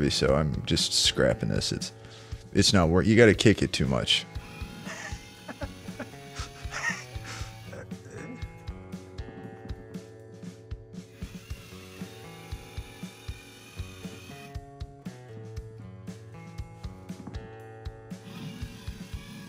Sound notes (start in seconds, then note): 4.8 laughing; 6.9 upbeat music; 11.0 machine buzzing; 11.8 upbeat music